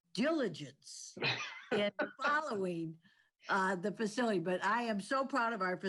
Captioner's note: laughs